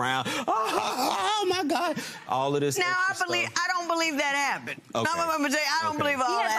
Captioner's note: laughing